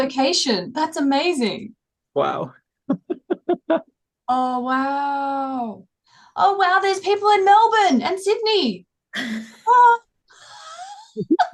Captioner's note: laughs